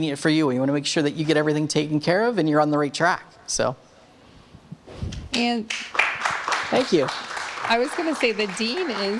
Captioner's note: audience claps